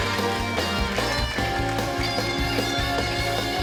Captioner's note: cheering